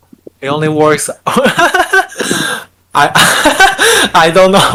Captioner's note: laughing